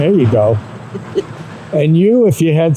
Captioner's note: chuckling